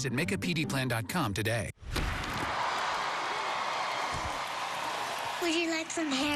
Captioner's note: crowd cheers